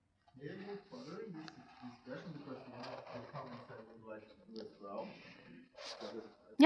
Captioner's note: murmurs